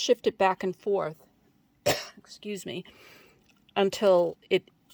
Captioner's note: cough